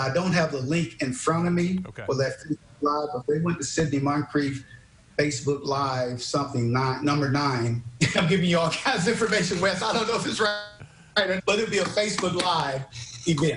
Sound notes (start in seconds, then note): 8.8 laughing